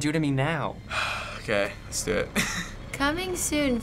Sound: deep sigh

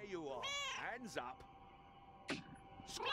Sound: Hodge meows; Hodge meowing

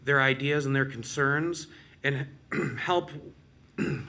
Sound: clears throat

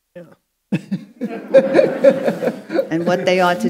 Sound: audience laughing

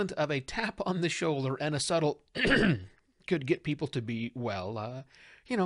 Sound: throat clear

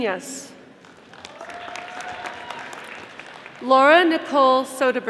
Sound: audience applauding

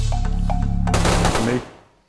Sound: gun shots

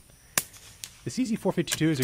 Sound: gun firing

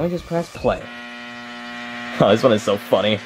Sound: microwave whirring

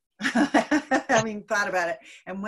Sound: giggling lightly

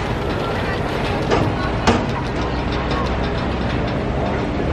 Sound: Skyliner whirring

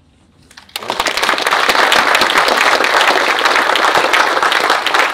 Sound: audience applauds

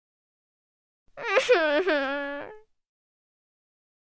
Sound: sound of sobbing

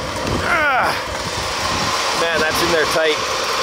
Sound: grunting

